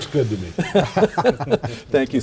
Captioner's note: laughing